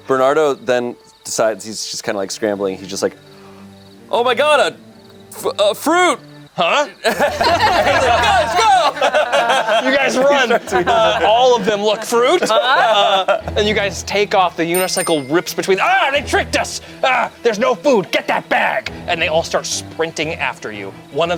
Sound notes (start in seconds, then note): 6.9 everyone laughs